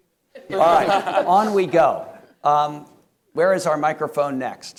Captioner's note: panelists laughing